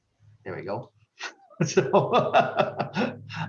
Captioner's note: laughs